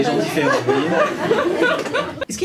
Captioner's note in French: rires public